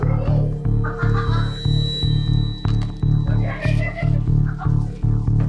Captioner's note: suspenseful music; customers chattering